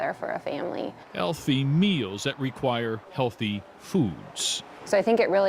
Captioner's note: voiceover